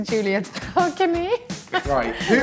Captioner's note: laughs